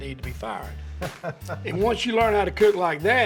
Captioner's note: laughs